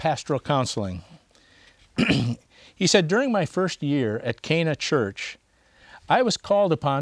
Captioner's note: clears throat